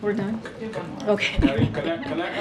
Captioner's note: laughs